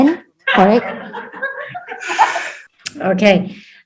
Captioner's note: audience laughs